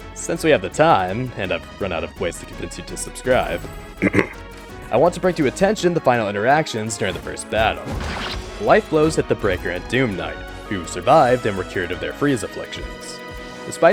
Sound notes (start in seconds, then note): 4.0 clears throat